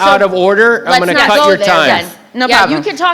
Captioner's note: group chattering